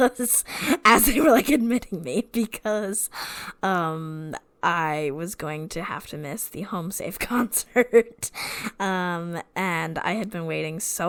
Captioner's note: laughing; laughs